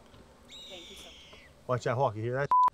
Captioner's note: hawk screeching